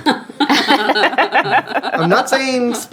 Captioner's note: laughing